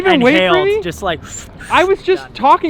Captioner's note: imitates inhaling